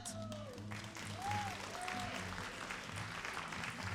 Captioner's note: all applauding